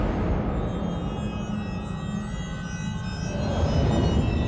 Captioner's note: strident tones